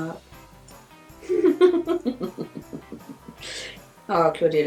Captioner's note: laughs